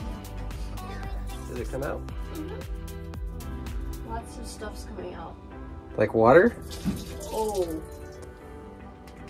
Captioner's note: water splashing